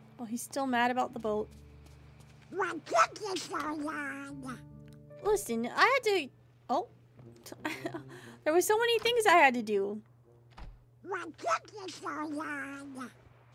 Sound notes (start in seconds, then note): 7.6 laughs